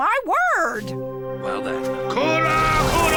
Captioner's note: chanting